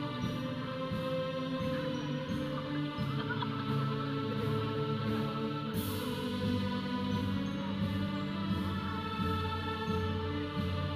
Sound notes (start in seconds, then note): 2.0 audience chattering; 2.0 processional music